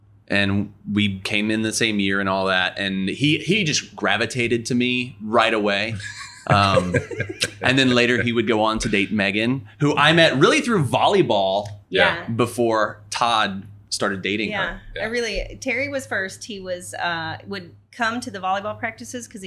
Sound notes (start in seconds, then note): 5.9 everyone laughing